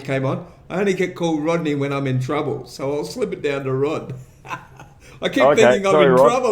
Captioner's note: laughter